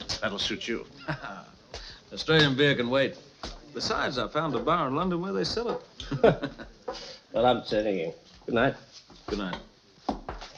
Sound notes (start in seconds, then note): 1.0 laughing